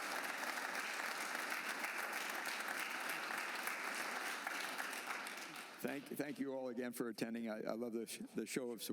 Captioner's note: applause